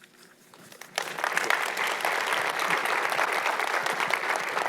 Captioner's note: audience clapping